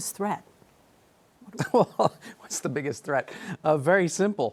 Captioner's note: laughs